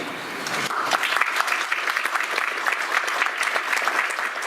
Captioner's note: audience applauds